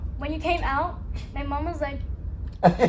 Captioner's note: laughing